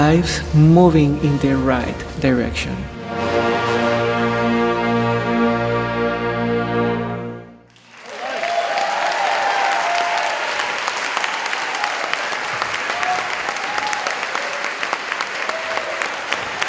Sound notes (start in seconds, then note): 2.5 band playing; 7.7 applause